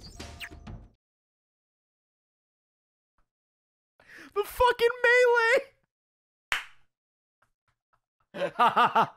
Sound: laughs

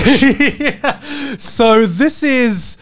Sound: laughing

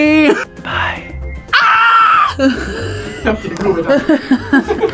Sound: whispers; screams; laugh

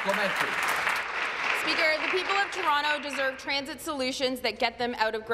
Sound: applause

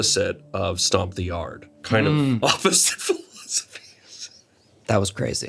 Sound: laughs

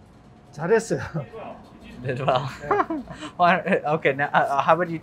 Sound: speaking in Korean

